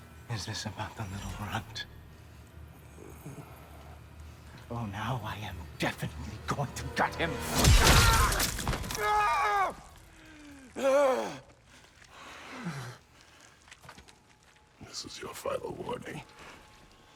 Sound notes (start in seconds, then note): 3.0 grunt